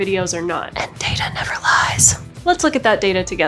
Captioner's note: whispers